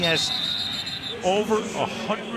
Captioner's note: whistle blows